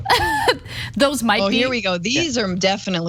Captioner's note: laugh